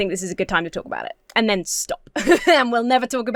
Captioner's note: laughs